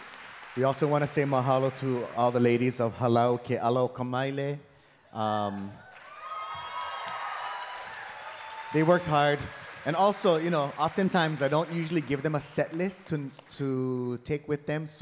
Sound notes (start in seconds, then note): 3.0 speaking in Hawaiian; 5.4 audience cheering